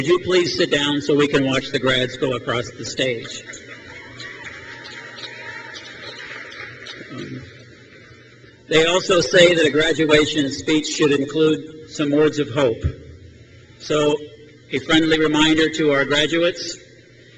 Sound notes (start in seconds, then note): 3.3 crowd cheers